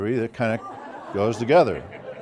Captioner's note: laugh